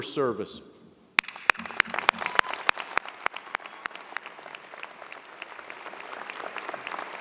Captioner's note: applause